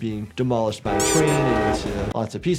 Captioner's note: train horn